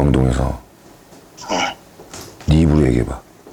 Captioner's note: gulp